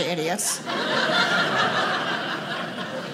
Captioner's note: audience laughing